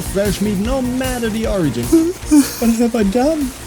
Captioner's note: such cry noise